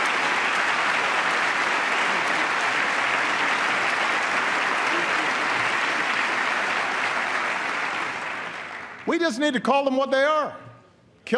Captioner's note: applause